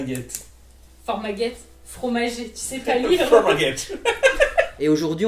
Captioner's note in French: rires